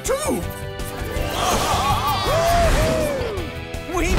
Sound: cheering

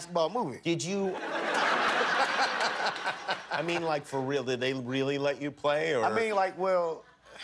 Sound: laughter

